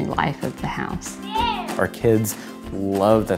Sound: child shouts

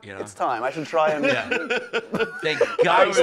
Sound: laughs

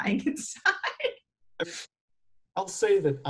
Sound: laughs

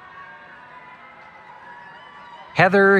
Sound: cheering

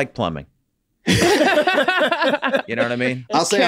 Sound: group laughs

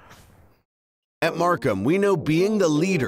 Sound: voiceover

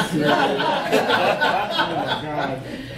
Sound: audience laughing

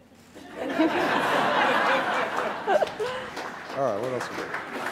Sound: audience laughing

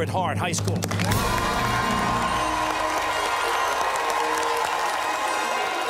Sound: cheers and applause

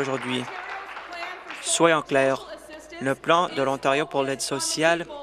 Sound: applause

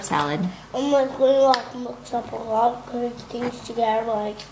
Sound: eating drowns out speaking

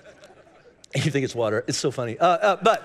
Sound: congregation laughing

